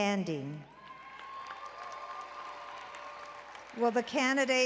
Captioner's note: applause and Cheering